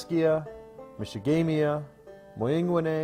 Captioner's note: Arabic